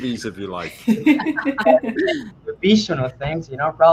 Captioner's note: laughing